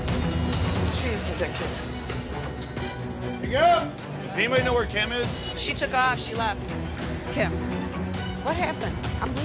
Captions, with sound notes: - She is ridiculous. (bell ringing) - Does anybody know where Kim is? - She took off, she left. - Kim, what happened?